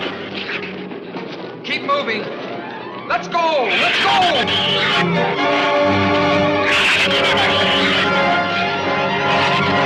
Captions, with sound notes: - Keep moving! Let's go! Let's go! (shrews screech) (shrews screech)